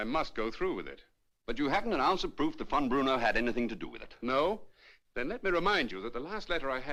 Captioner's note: none